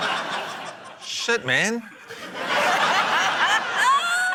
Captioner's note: laughter